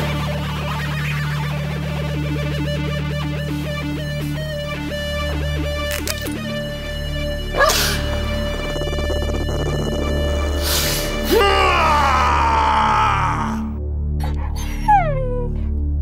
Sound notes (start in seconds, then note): 7.4 bark; 8.4 growling; 14.2 whimpers